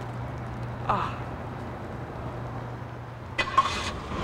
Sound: groans

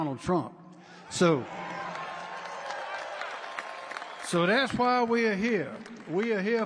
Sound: applause

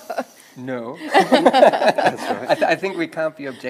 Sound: everyone laughs

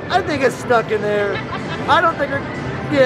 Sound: laughs

